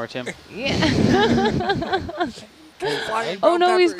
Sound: all laughing

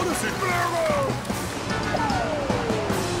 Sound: Blok shouting in Brislovian

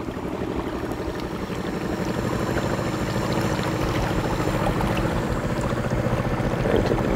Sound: water gurgling; engine revving

